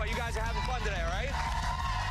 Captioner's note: applause